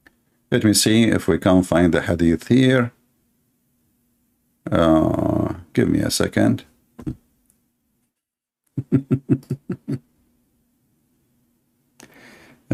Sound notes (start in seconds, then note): 8.7 laughter